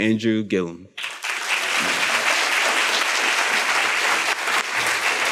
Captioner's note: students applaud